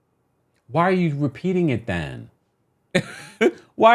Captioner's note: laughing